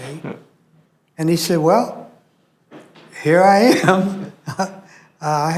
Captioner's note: laughs